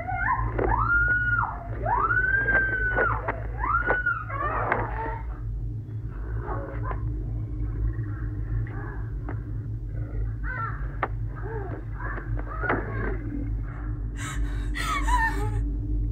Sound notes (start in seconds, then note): 0.1 Sandra screaming; 5.0 choking; 14.1 whimpering